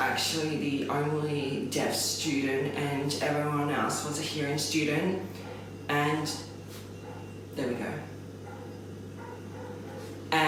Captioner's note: dog barking